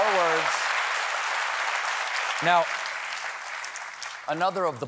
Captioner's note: cheers and applause